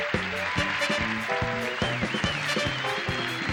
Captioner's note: audience claps and cheers; energetic music